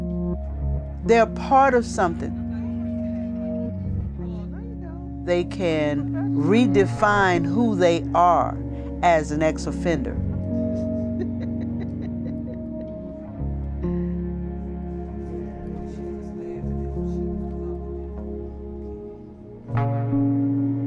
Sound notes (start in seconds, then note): 1.8 indistinct chatter; 10.1 laughs